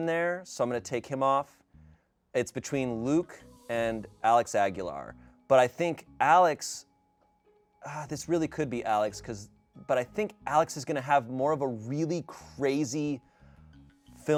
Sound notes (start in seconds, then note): none